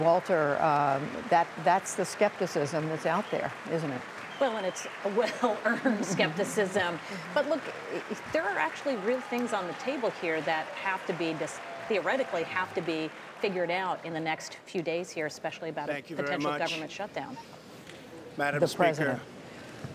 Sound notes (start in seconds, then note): 7.4 laughter